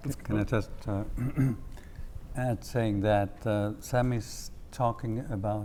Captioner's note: cough